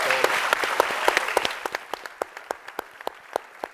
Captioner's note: clapping